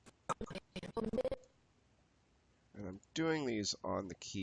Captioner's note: audio skipping